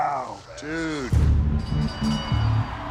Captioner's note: bell clangs